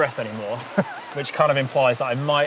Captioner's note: laughs